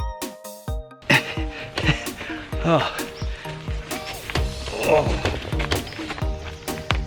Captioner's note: gasping